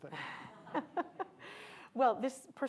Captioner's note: laughs